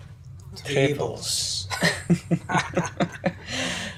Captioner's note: laughing